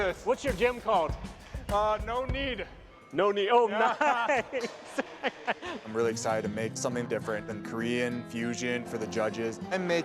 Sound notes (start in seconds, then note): 3.7 laughs